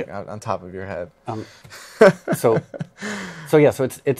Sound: laughs

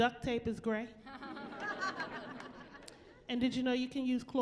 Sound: chuckling

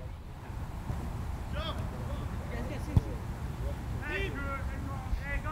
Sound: players talking and yelling

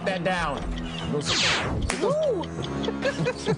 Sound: evil laugh

